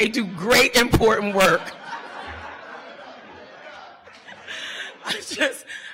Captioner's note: audience laughter